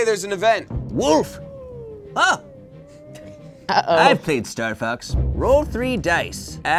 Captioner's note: yelps